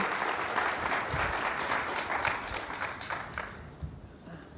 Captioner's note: applause